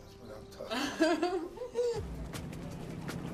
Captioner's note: Nikita laughing; upbeat electronic music